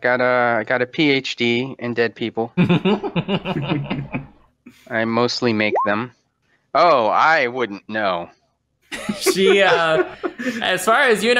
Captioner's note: laughter